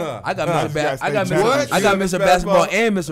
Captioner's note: scoffs